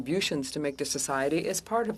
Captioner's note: speaking French